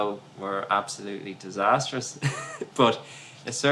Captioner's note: laughs